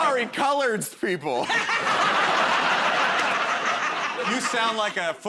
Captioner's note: laughter